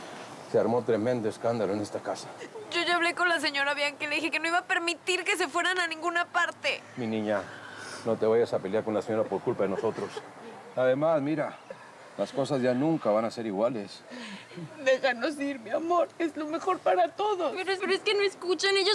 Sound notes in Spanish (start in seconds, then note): 10.8 Sollozos